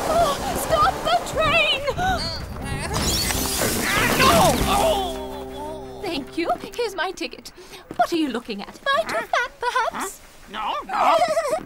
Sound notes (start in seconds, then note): 2.5 grunts; 10.8 giggling